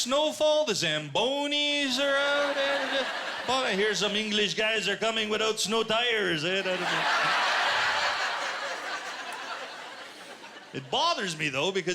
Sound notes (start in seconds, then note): 3.5 quebecois accent; 6.6 laughter